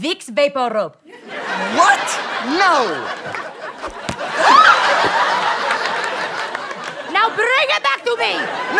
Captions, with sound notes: - Vick's VapoRub. [audience laughter] - What?! No! [thud] [audience laughter] - Now bring it back to me!